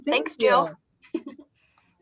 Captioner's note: chuckles